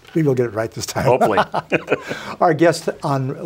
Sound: laughing

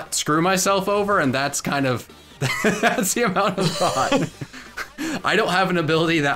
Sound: laughs

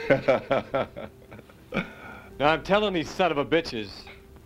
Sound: laughing

